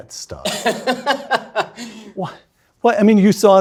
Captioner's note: Ben laughing